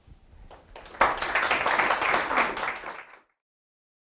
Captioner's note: applause